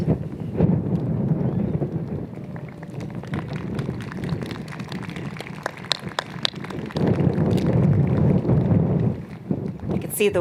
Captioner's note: applause